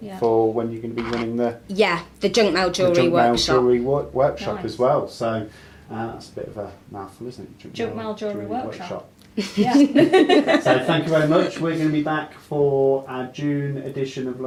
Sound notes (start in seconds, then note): 9.5 all laugh